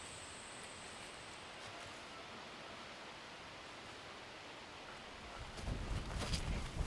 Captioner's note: wind / walking noise; insects; walking noise